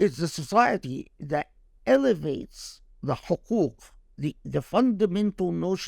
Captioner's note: speaking Arabic